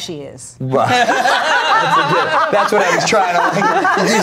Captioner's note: everyone laughs